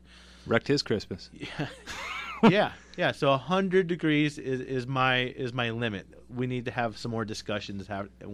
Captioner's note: both laugh